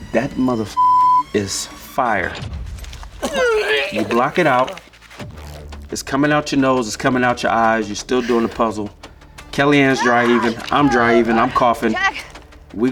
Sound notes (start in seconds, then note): 0.7 beep; 2.6 dry heaves